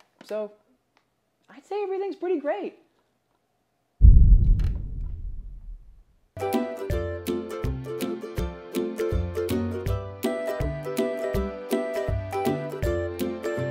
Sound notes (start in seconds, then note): 4.0 loud bang; 6.6 upbeat music